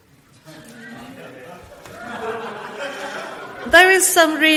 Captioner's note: audience laughs